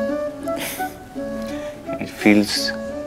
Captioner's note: Gauravi exhales